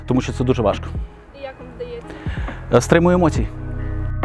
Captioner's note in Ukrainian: голос за кадром